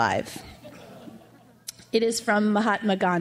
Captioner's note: crowd laughs